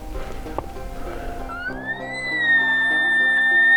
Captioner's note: caller bugling